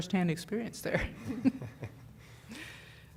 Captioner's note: laughter